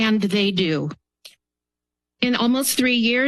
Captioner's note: pause